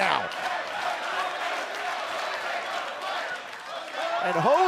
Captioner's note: fans chanting